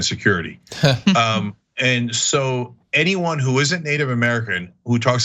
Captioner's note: laugh